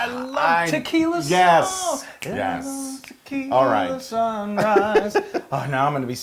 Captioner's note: laugh